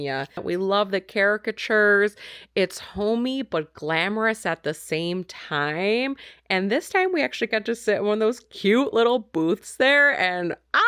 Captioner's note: screams